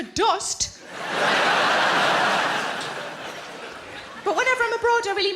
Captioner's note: audience laughing